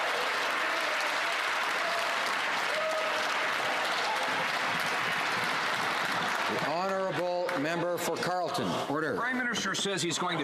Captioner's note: some Applause